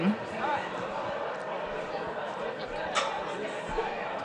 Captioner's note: audience chatting